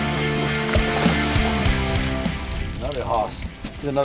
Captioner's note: water splashing